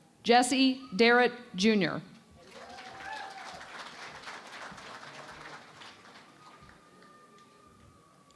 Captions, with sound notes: Jessie Darrett, Junior. [ Applause ]